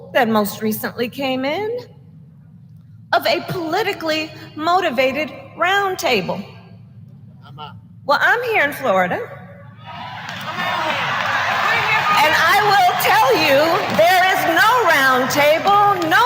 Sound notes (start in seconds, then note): 9.9 applause